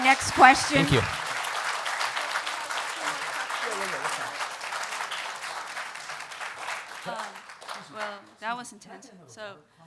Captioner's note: applause